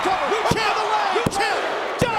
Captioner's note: hands thudding